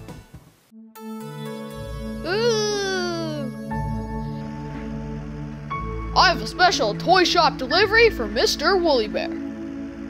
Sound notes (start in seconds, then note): 8.9 big Truck Sounds, Music